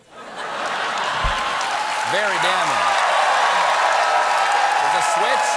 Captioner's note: cheers and applause